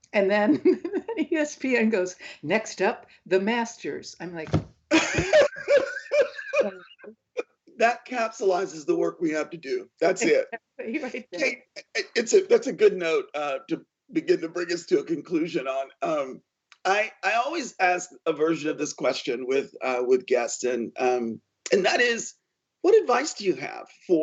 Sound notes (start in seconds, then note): 4.5 hits furniture; 4.9 laughs